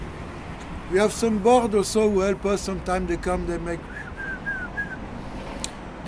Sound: whistles

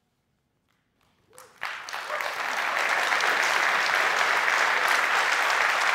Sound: applause

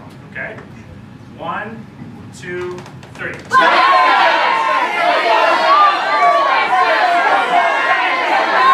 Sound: yelling

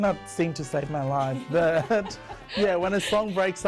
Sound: laughs

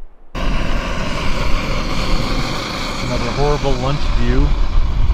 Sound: gas hissing

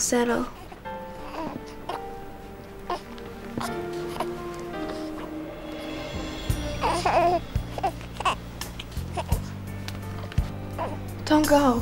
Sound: Brady coos

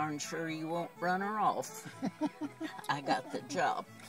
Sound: chuckles

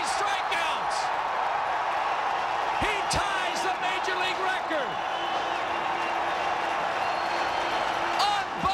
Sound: crowd cheering

